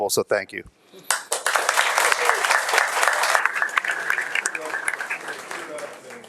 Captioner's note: audience applauding